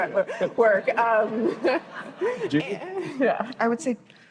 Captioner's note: laughter